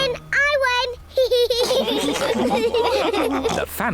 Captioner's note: all laugh